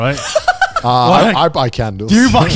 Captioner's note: laughing